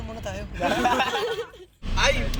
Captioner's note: everyone laughs